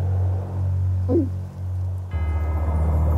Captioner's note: Princess Oren gulps; bells chime; ominous music